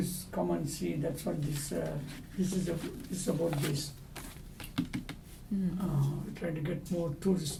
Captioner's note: papers rustling; taps